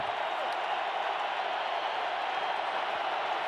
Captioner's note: crowd cheering